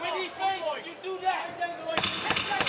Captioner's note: yelling